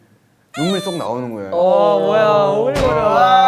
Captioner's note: tears burst